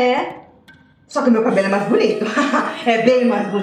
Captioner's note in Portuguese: risos